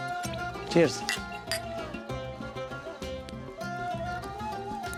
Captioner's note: glasses tinkling